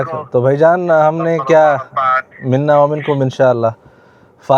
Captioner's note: Arabic